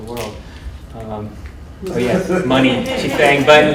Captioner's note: laughter